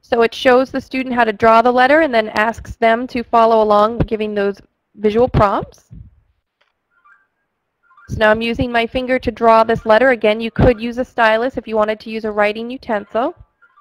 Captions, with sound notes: - [Voiceover] So it shows the student how to draw the letter and then asks them to follow along by giving those visual prompts. (ringing) So now I'm using my finger to draw this letter, again, you could use a stylus if you wanted to use a writing utensil.